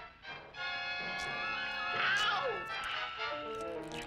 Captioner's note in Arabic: أصوات المضغ أعلى